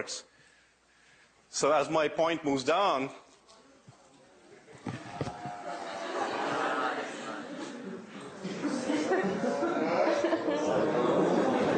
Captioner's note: laughter